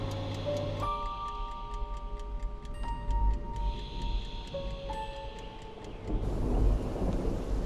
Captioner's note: faint ticking; thunder rumbling